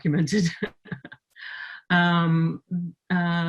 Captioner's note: laughing